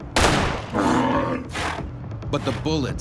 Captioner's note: gunshot; bull bellowing